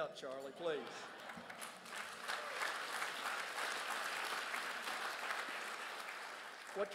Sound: crowd applauds

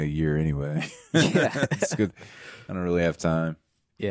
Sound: laughs

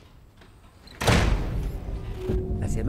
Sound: door slams

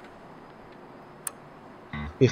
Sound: click

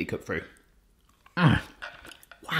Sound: grunts

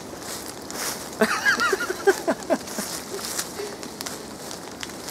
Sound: Rires

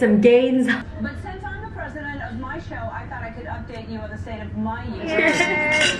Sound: muffled television chattering

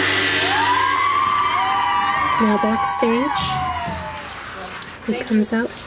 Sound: women yelling

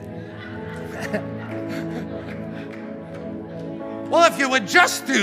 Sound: congregation applauds

